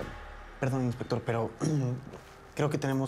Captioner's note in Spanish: carraspea